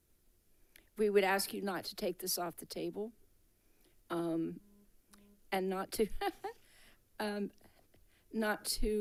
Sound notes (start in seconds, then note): 7.2 laughs